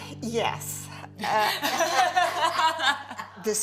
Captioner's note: laughing